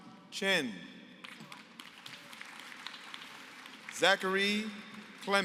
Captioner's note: applause